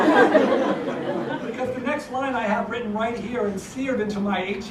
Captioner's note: laugh